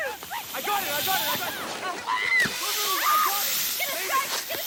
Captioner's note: screams